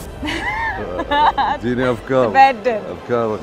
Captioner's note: laughing